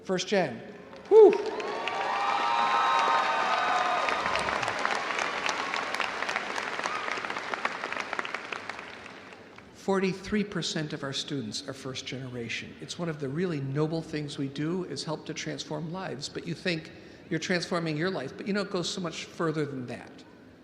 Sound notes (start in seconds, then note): 0.9 audience applauding; 1.0 audience cheering